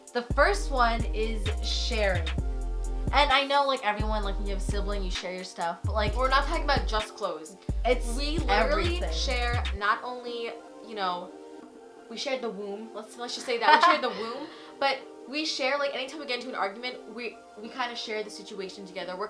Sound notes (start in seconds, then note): 13.4 laughing